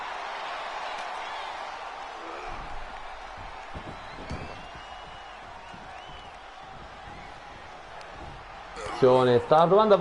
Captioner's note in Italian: Applauso